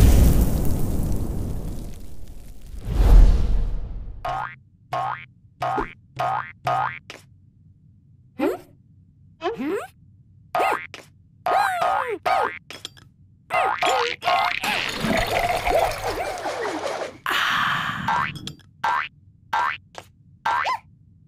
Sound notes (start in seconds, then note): 0.0 burst of flames; 4.1 boing sounds; 14.3 slurping noises; 18.7 boing noises